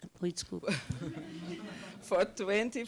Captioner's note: audience chuckling